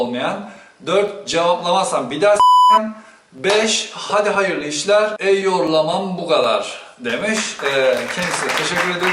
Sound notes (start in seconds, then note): 7.1 claps